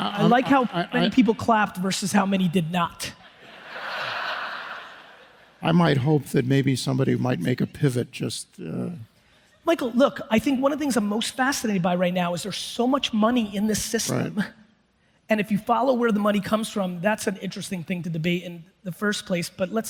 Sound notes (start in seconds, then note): 0.0 audience applauds; 3.2 audience laughs